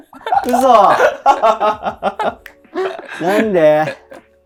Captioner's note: laughing